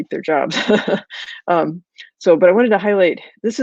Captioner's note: laughs